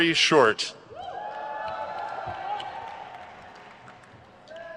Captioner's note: crowd cheers